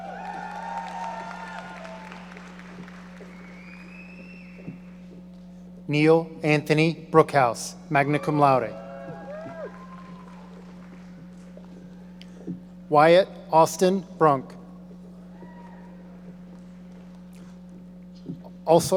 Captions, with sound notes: (audience cheering) Neil Anthony Brookhouse, magna cum laude. (audience applauding) Wyatt Austin Brunk.